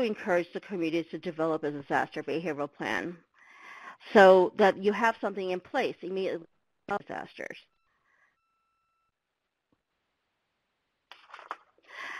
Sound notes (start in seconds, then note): 6.6 audio drops out